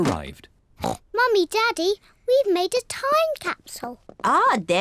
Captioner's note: oinks